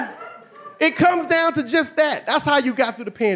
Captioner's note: audience laughing